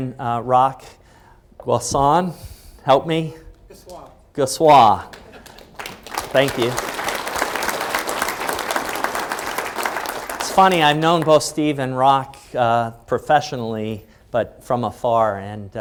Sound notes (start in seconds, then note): 7.2 applause